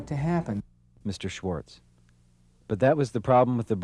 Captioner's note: voiceover